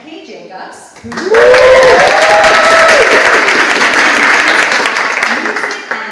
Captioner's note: audience applauds